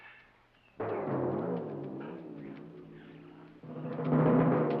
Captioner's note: jungle noises; drum music